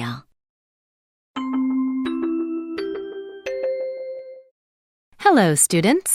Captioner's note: chime bell rings